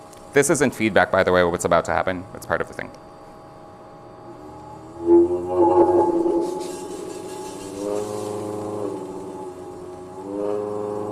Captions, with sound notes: This isn't feedback, by the way, what's about to happen. It's part of the thing. [VIBRATING SOUND]